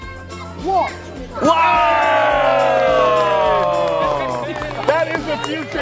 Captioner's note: cheering